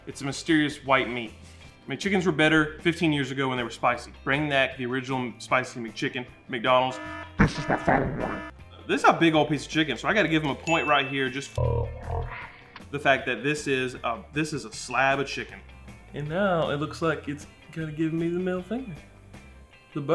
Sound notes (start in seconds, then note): 10.6 bell ringing; 11.3 distorted speech